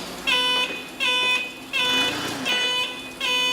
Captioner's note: beeping